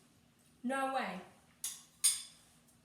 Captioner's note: spoon clinks